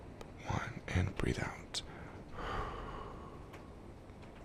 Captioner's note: exhale deeply